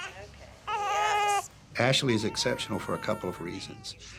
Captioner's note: fussing